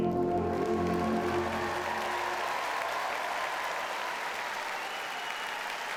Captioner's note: audience cheers and applauds